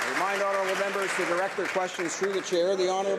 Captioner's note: some Applause